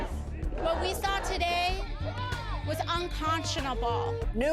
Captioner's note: chants